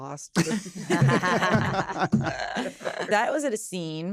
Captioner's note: laughter